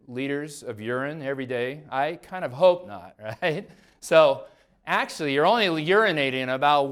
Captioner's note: laughs